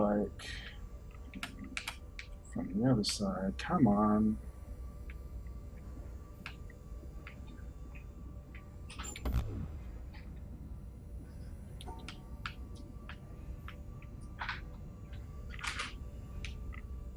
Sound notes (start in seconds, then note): none